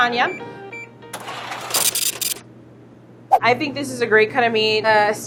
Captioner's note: scale beeps and brrhs